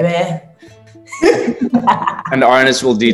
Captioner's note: laughing